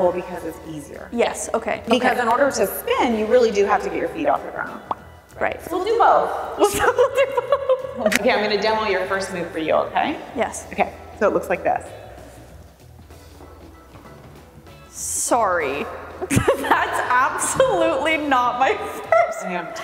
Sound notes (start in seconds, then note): 4.8 bubble popping; 6.6 laughing; 8.0 hands clapping; 12.7 upbeat music; 15.7 laughing